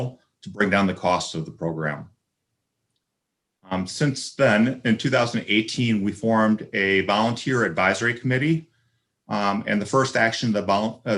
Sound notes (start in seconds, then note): none